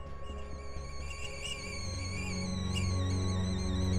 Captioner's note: sound of high-pitched whistling